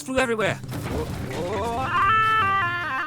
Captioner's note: crashing sounds